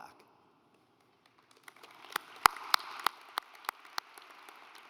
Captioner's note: audience applauds